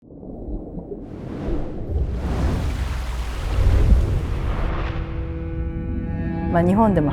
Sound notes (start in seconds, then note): 0.7 dramatic sounds of water; 2.0 dramatic orchestral music plays